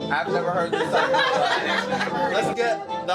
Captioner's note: all laugh